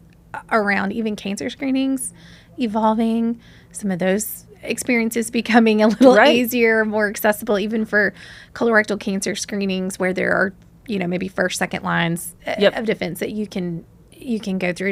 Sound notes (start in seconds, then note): 5.9 laughs